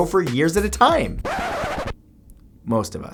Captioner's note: record scratching